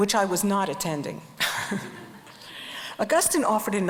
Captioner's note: crowd and speaker chuckle